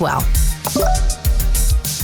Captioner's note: upbeat music; interface chiming